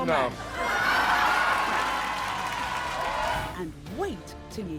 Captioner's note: audience applauds